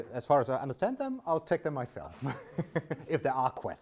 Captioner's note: laughs